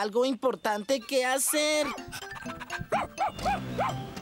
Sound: barking & Panting

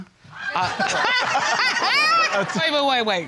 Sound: judges laughing

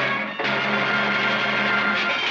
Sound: applause

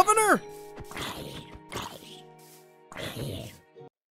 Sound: growling

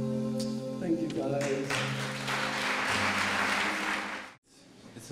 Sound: applause

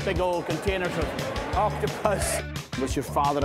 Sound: laughing

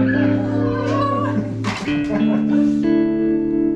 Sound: laughing

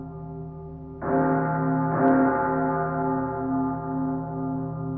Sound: gongs

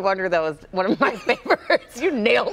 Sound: laughter

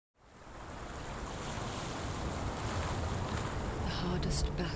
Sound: waves crashing

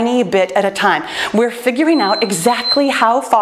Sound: timer beeps

